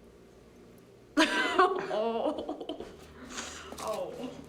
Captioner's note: laughs, Groans